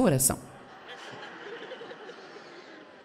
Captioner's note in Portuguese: audiência ri